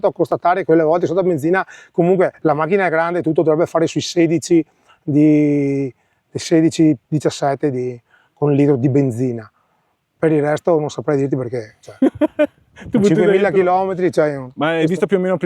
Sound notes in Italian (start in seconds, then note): 11.9 risate